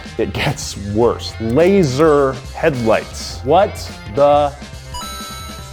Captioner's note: coins clinking